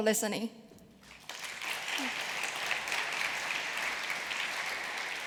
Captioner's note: applause